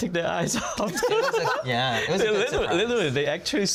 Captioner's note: laughs